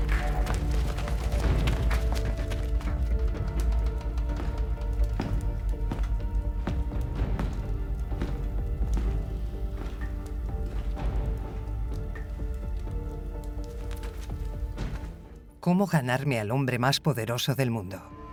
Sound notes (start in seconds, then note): 3.2 footsteps tapping